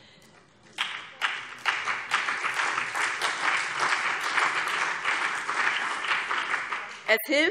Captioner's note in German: Beifall BÜNDNIS 90/DIE GRÜNEN und vereinzelt CDU